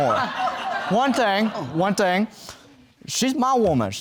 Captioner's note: audience laughing